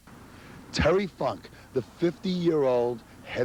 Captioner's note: crowd cheering